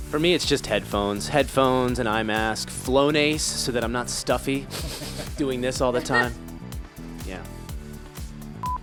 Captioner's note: sniffing